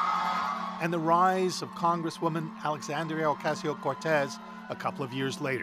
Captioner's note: applause